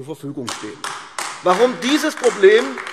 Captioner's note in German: Beifall AfD